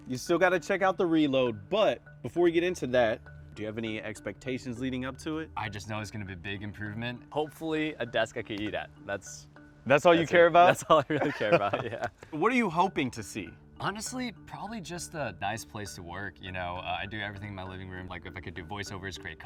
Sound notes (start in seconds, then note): 10.6 laughs